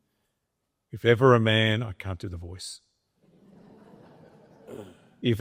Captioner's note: audience laughs